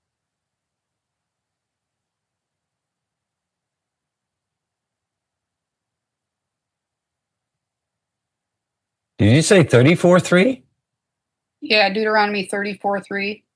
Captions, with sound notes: just a little bit different. [Silence] Did you say 34.3? Yeah, Deuteronomy 34.3.